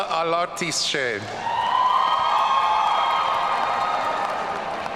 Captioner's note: audience cheering